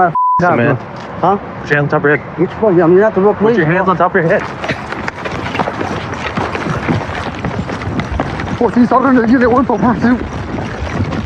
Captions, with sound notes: Put ur hands on top youhead. . Yore not theeal police Put yo hands on top of. [keys ngling] dering a ut.